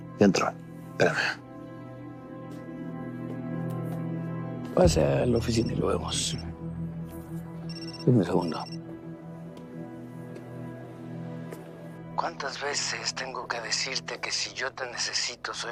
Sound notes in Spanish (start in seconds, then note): 7.6 Suena el celular